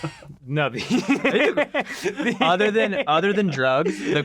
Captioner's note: group laughing